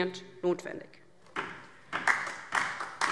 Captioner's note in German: Beifall DIE LINKE